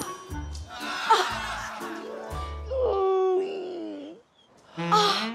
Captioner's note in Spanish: Gruñe